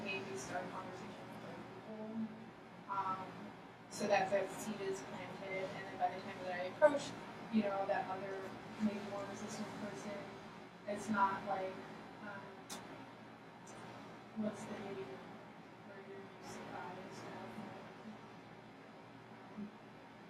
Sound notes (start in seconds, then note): 15.6 speaking softly